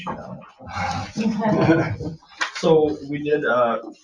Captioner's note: people chuckling